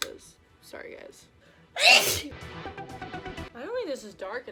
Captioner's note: sneezes